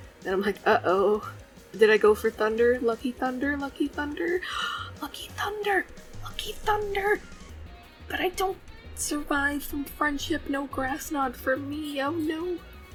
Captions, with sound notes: Then I'm like—uh oh. Did I go for Thunder? Lucky Thunder?? Lucky Thunder??? *gasps* Lucky Thunder!! Lucky Thunder!!! But I don't survive from friendship. No Grass Knot for me. Oh no.